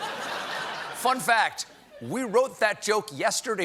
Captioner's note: laughter